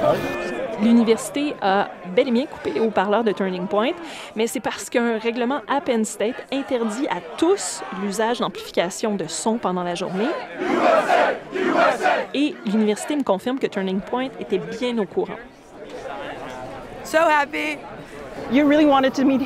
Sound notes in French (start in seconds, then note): 9.9 foule scandant